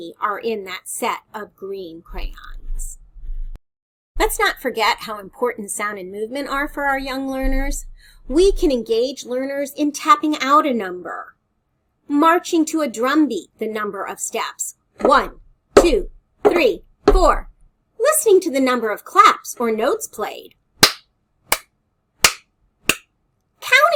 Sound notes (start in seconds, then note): 15.8 stepping; 22.2 clap, clap, clap, clap